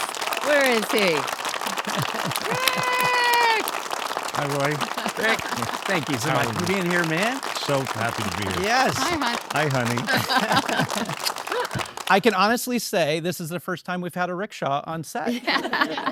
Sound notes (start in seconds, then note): 1.8 and audience clap; 11.2 laugh